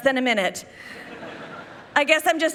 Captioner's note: people laughing